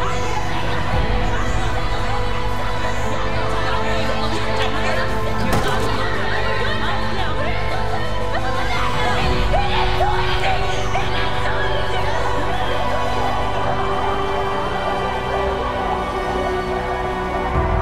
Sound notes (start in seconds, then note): 2.6 indistinct yelling, baby crying; 12.5 muffled screams, ringing